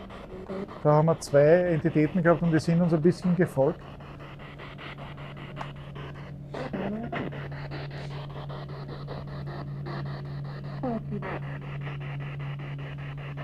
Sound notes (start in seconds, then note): 6.6 radio noise from the spirit box